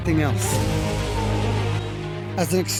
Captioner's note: wolf howls